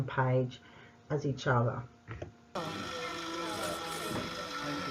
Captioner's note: machine noises and general chatter